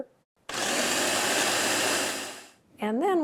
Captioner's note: blender whirring